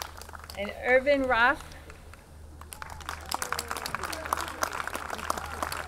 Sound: audience clapping

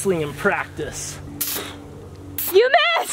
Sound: can spraying

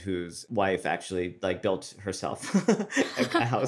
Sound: laughs

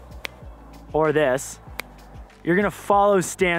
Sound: snaps

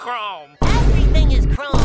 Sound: boom

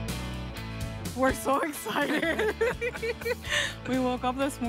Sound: upbeat music; laughs

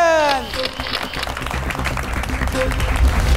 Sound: clapping

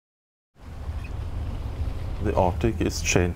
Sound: engine chugs

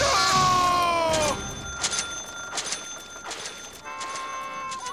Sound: cash register dinging

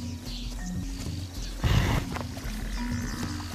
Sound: snorts

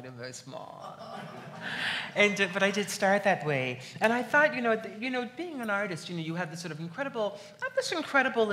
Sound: laughs

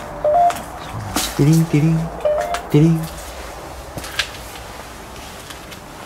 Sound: ghost tube warning sound

